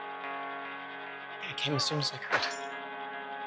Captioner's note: voiceover